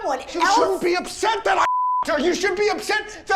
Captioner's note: beep